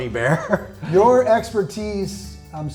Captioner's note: laughs